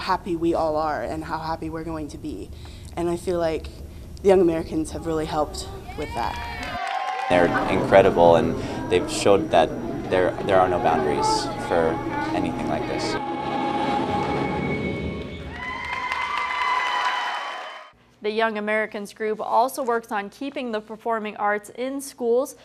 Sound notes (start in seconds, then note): 6.6 applause, cheers; 13.2 finale music; 15.1 crowd claps and cheers